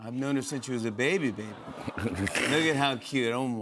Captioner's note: chuckles